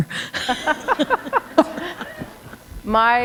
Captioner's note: chuckle